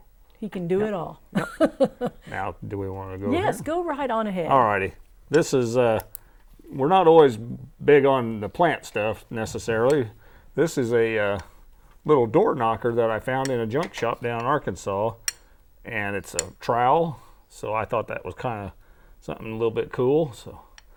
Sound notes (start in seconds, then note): 1.4 laughing